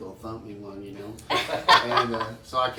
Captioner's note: laughs